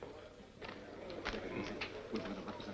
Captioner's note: whispering